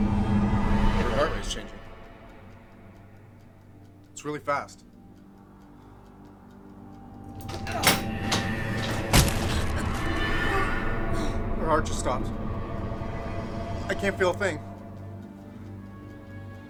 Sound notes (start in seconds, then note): 10.0 grunting